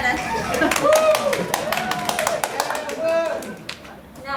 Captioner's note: cheers and Applause